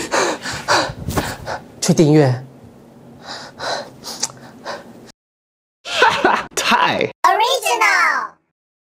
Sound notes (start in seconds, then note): 0.0 angry panting; 4.6 unimpressed panting